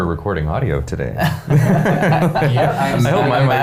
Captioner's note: laughing